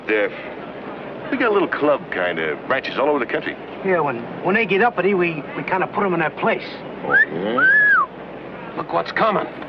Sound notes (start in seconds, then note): 7.0 whistling